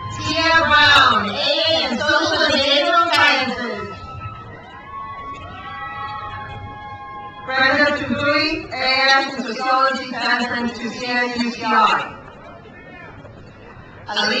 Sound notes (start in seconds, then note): 4.0 crowd cheers; 11.9 crowd cheers